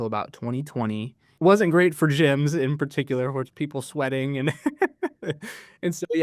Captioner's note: laughs